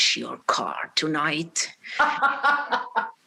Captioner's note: laughing